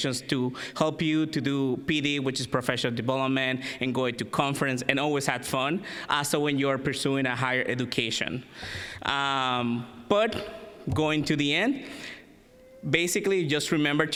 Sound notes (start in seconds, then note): none